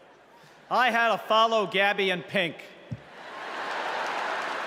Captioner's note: crowd chanting